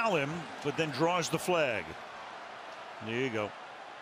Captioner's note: cheering